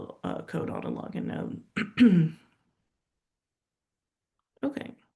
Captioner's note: clears throat